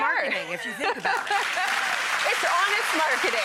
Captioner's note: audience clapping